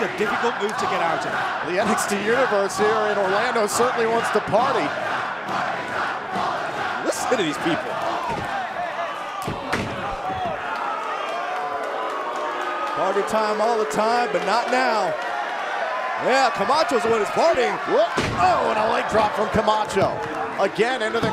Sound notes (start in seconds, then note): 4.0 fans chanting; 7.2 fans chanting; 12.4 cheers & boos